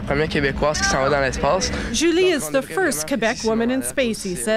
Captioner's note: speaking in French